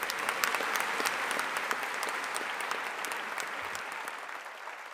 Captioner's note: audience applauding